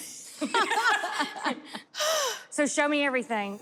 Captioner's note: laughter